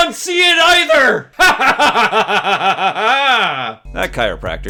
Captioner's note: maniacal laughter